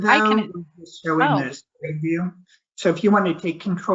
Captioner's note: audio skips